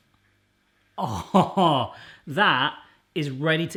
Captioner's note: laughs